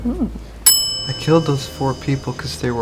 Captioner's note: bell dings